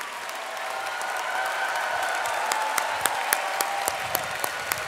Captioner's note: audience applauding